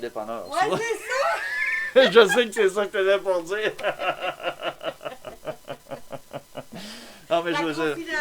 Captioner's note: laughter